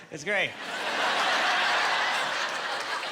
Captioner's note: laughing